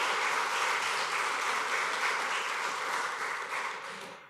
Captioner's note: applause